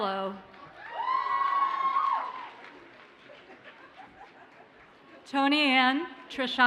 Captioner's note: audience cheers and applauds